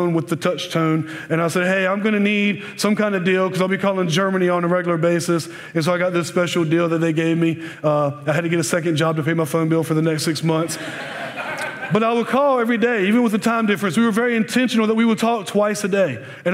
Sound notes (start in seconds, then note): 10.6 laughter